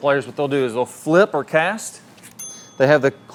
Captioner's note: bell dinging